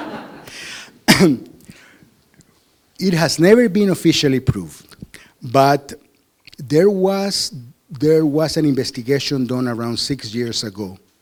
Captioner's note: laughter